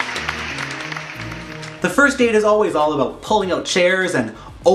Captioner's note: applause